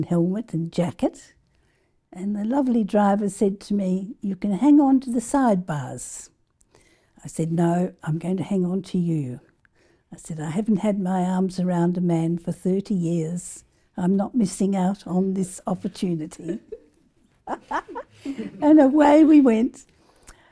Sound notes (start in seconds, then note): 17.4 laugh